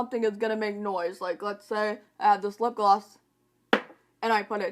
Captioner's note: bang